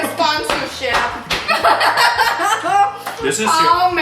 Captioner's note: laughs